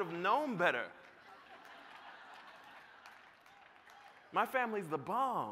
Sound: laughter

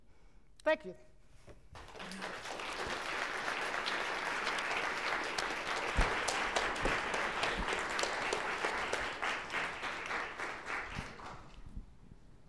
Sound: applause

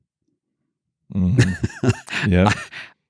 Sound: chuckles

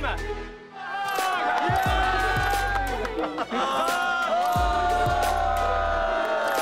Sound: upbeat background music; crowd cheering

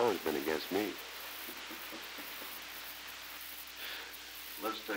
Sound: Murrow chuckles

